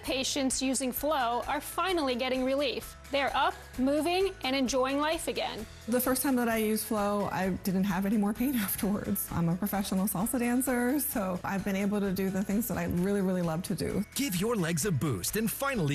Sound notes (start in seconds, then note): none